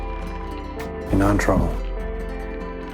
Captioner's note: voiceover